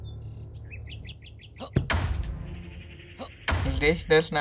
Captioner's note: door breaking sound